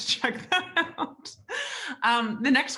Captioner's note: laughs